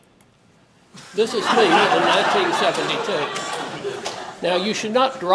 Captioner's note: laugh